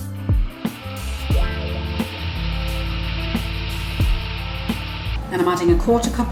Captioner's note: grinding noise